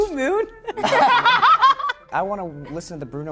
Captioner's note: laughter